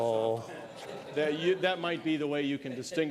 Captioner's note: laughter